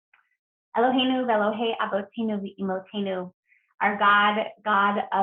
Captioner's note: foreign language